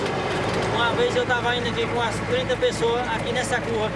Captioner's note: Portuguese spoken audio